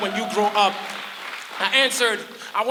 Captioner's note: crowd applauds